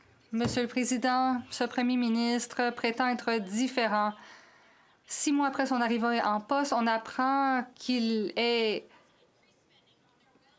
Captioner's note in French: voix de l'interprète